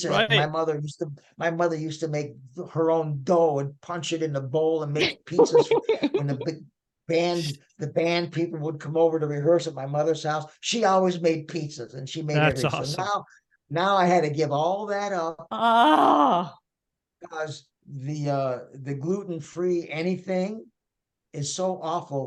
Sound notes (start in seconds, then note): 5.0 laughing; 15.3 groaning